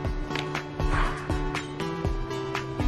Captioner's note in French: sighs